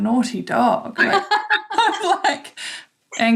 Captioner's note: laughs